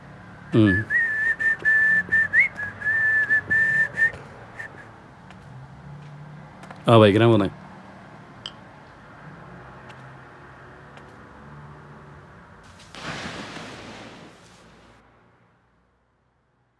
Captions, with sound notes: Hmm.. [ Whistling ] Yea, Going on the bike